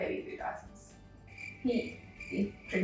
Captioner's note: crickets chirping sound effect